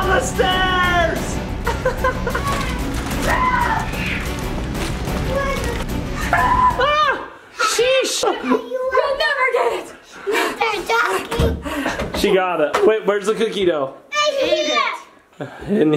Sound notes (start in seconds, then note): 4.2 laughs; 6.2 screams